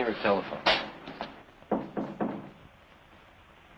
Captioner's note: knocking on door